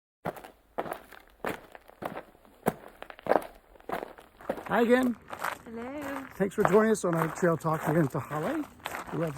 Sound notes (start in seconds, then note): 0.2 footsteps falling on gravel